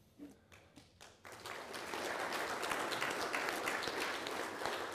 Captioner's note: people applauding